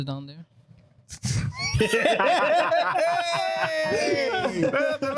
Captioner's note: laughter